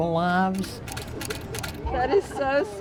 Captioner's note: camera shuttering